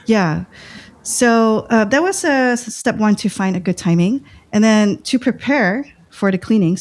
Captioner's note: uh